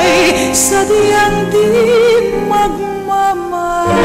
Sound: none

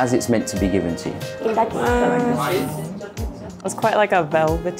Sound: speaking Japanese

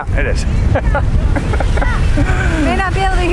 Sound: both laughing

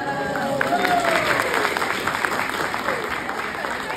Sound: applause

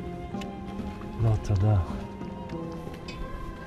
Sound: speaking in Hebrew

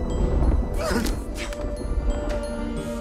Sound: sobs

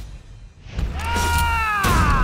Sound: screaming

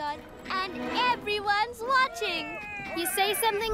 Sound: cheering

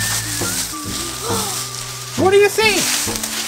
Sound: assistant gasps

